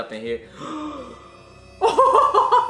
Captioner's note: both gasping; laughing